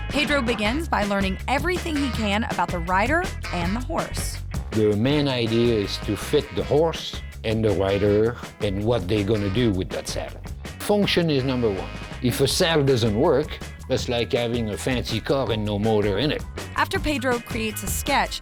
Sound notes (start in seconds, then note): none